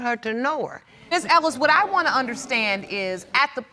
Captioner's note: audience murmuring